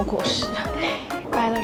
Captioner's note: laughing